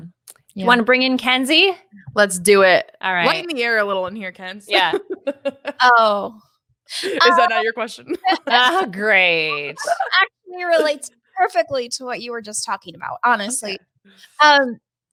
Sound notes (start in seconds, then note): 5.1 laughs